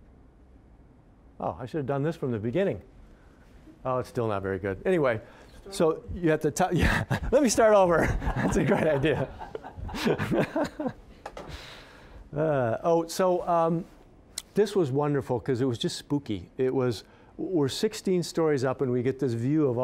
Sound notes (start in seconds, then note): 6.7 laughing; 11.1 all laughing